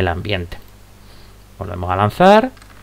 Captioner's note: rolling dice